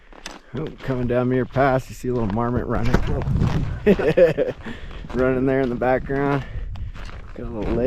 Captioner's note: laughing